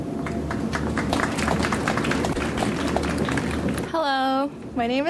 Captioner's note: audience applauds